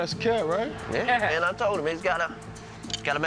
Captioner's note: laughs